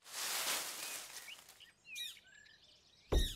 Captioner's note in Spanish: Sonido de hojas; trino de aves; Sonido de golpe